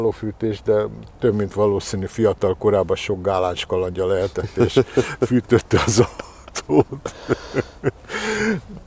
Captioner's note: both chuckle